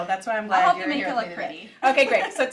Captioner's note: laughs